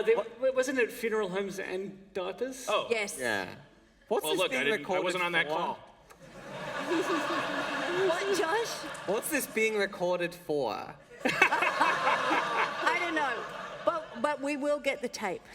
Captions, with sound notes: No, wasn't it funeral homes and diapers? >> Oh. >> Yes. >> Yeah. >> Well, look, I didn't -- I wasn't on that call. >> What's this being recorded for [laughter]? >> What, Josh? >> What's this being recorded for [laughter]? >> I don't know, but we will get the tape.